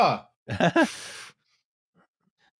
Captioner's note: laughs